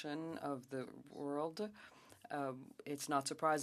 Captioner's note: speaking French